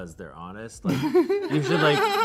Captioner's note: laughs